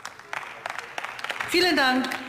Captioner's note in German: Beifall